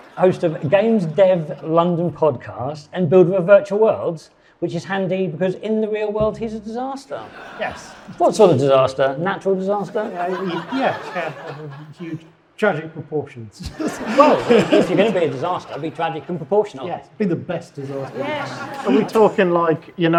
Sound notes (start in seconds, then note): 7.2 audience laughing; 9.7 audience laughing; 13.6 guests chuckling; 13.6 audience laughing